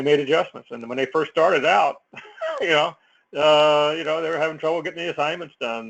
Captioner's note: laugh